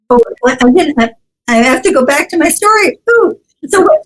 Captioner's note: none